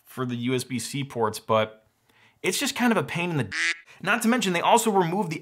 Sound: quack

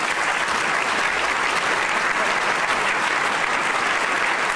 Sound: applause

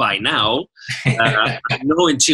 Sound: laughing

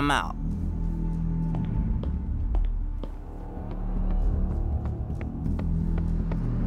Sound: dramatic music; footsteps tap

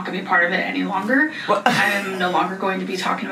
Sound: laughs

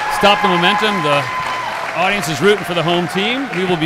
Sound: audience cheering

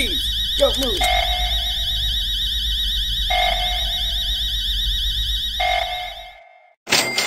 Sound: alarm rings; alarms keeps ringing; cash register sound

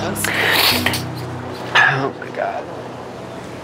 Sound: sniffing

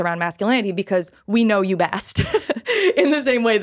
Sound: laughs

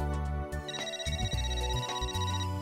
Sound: phone ringing

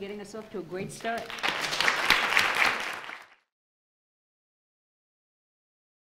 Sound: audience applauding

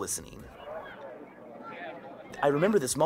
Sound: murmuring

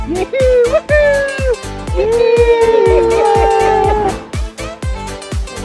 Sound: cheering

